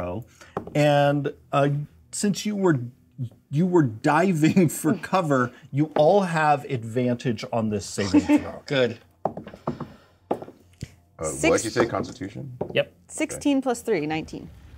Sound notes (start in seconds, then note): 9.6 die thuds